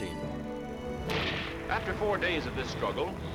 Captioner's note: gunfire